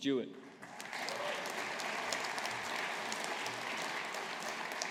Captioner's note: audience applauding